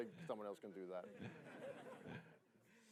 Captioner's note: laughter